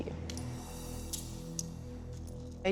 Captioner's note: handcuffs clicking